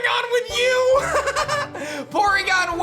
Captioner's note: laughs